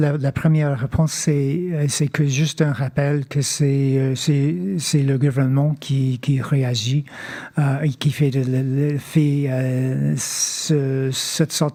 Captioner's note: speaking French